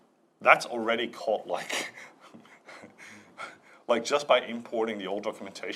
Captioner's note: laughs